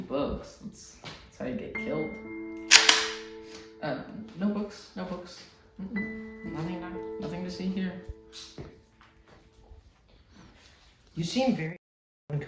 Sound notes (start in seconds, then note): 2.7 gun sound